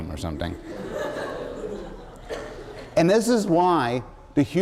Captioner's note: laughter